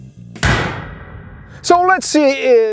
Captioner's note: pistol fires